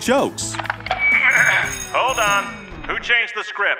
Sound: soundbite of bell; through megaphone

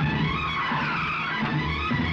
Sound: brakes squeal

